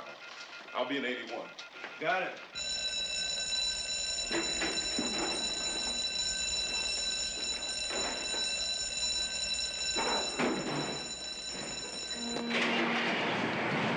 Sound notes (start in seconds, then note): 2.3 alarm Ringing